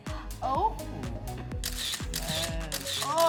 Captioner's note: camera shutter clicking